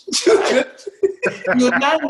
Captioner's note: laughter